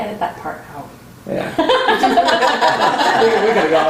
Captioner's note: laughter